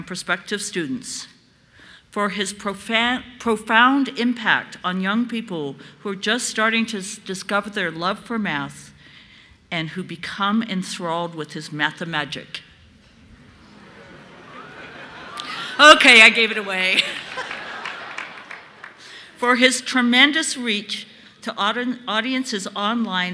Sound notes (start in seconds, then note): 16.8 applause; 18.6 laughter